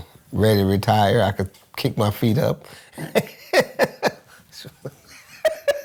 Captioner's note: laughs